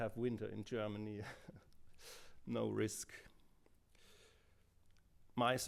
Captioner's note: laughter